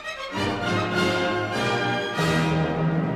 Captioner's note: none